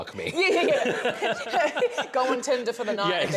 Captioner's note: laughter